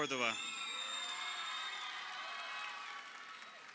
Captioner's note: crowd cheering